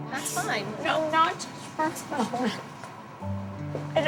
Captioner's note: crying